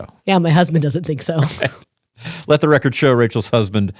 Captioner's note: laughs